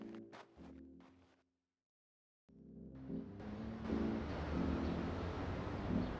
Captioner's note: tires screeching